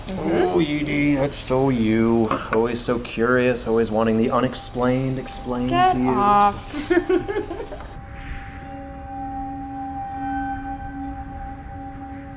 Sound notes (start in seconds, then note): 5.8 Allie laughs; 8.2 soft eerie music